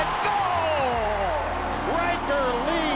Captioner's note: crowd cheering